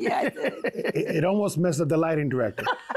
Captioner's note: laughter